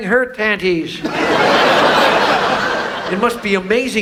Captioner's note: audience laughs